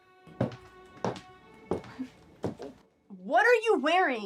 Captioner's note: steps plodding